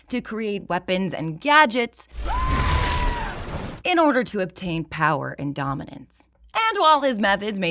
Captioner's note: high pitched scream